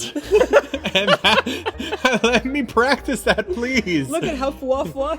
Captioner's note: laughter